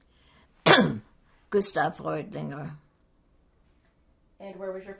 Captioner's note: clears throat